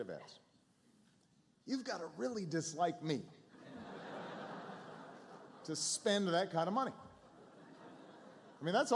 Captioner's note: laughter